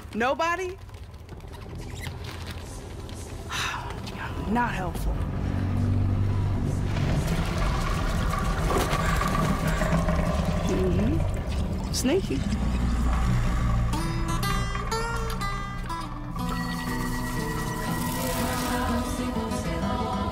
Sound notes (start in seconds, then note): 1.5 ghostly voices whispering; 3.4 sighs; 6.4 ghostly voices whispering; 8.5 ominous rumbling; 14.0 blues guitar playing; 16.7 magical vibrating